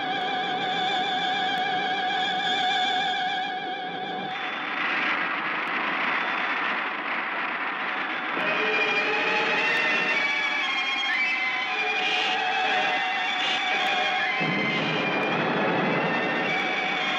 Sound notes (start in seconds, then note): 8.4 suspenseful orchestral music; 8.7 laser blasting